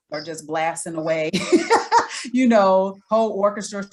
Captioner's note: laughs